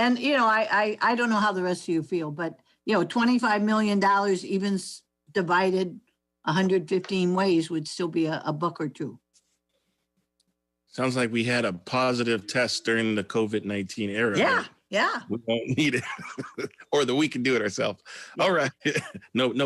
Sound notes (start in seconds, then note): 15.6 laughs; 18.4 laughs